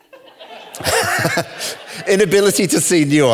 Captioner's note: all laughing